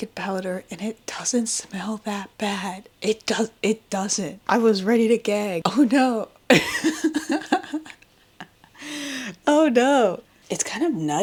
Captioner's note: laughs